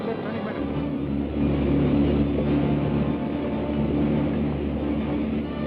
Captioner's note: engine rumbles